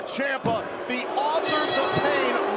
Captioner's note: bell ringing